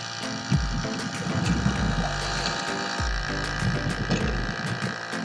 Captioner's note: underwater sounds